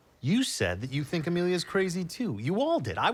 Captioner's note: none